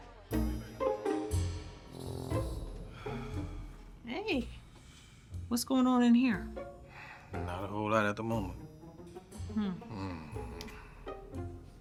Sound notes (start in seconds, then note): 2.7 Ian sighs